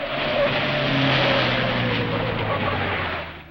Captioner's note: car zooming